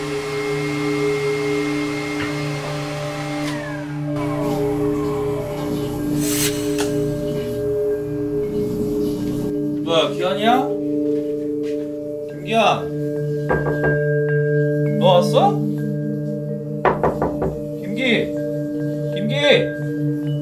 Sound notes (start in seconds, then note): 13.5 knock, knock, knock